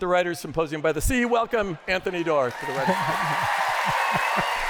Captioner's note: applause; laughter